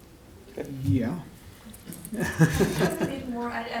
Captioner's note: laughs